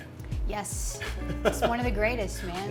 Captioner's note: laughs